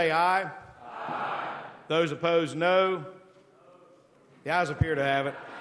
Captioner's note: chorus of ayes